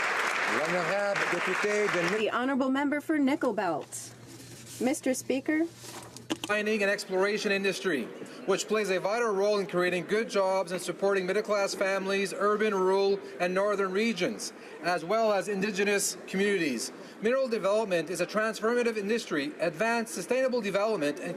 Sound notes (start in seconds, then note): 0.0 applause